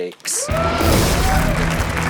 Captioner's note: crowd cheering and applauding; rock music